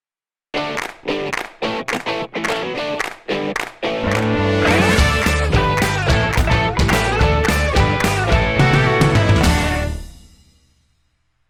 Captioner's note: claps